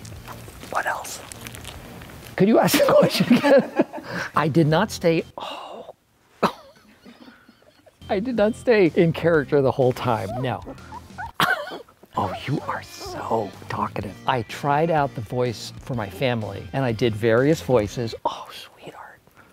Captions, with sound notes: What else? Could you ask the question again? (laughs) I did not stay. Oh. I did not stay in character the whole time. No. (puppy squeals) (Steve laughs) Oh, you are so talkative. I tried out the voice for my family and I did various voices. Oh, sweetheart.